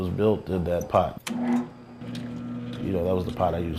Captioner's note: click, hum